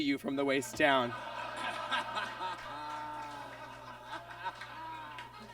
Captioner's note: audience laughs